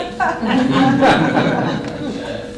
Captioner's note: laughter